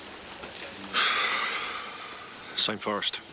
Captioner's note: Dave sighs